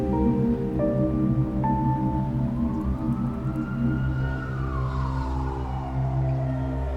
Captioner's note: music darkens; sirens wail